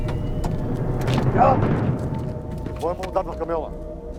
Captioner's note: chattering